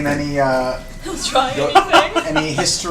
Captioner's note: laughs